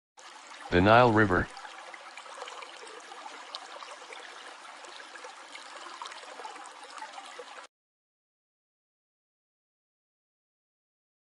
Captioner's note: sound of running water